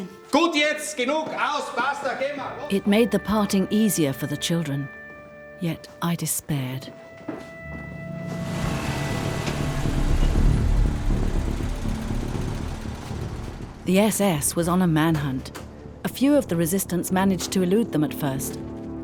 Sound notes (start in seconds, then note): 7.9 engine revs; 8.5 dramatic music